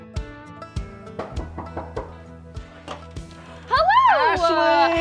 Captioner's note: knocks